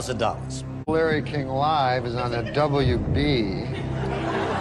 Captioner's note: scattered giggles